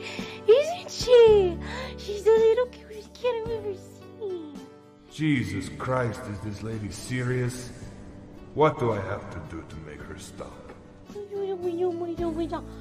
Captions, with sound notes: Isn't She? She's the little cutest kitten you ever seen. - [Creepy Voice of Mr. Babadook] Jesus Christ is this lady serious? what do I have to do to make her stop?